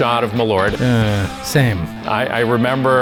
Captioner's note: groans